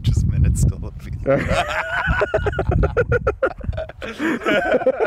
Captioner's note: both laughing